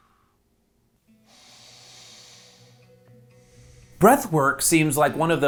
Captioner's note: man exhaling; woman inhaling